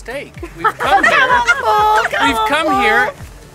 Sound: all laughing

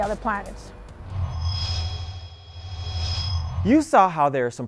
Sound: sound Effects

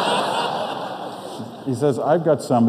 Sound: audience laughs

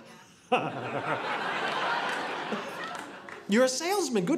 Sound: audience laughing

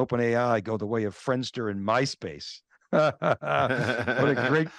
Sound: chuckles

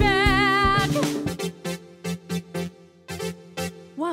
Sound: Wow! signal radio sound

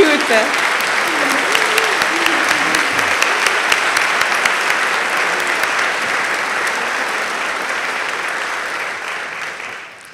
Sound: applause

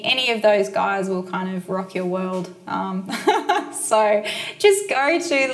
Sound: chuckles

